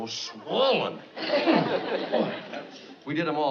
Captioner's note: groans